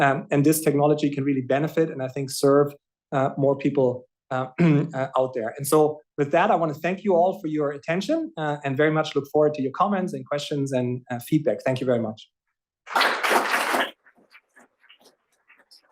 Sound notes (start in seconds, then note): 12.8 applause